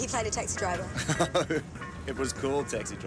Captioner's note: laughing